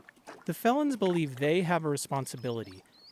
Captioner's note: voice-over